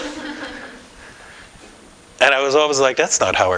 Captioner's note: laughter